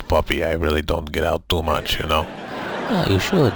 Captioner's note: audience laughing